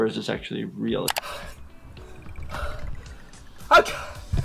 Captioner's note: gasping